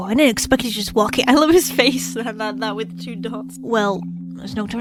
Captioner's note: laughs